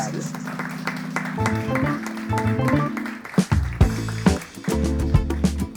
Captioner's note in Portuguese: Applause